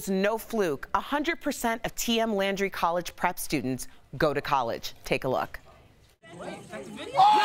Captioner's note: cheering